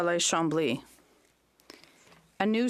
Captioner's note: speaking French